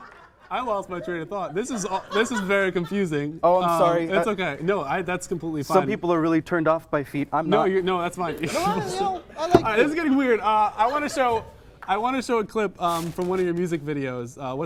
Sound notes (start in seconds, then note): 0.0 audience laughs; 8.1 small laugh; 8.3 more audience laughter; 8.8 agreeing noises